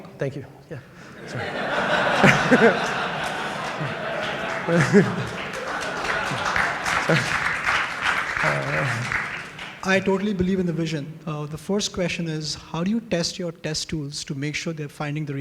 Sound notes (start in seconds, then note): 7.7 applause; 7.7 laughter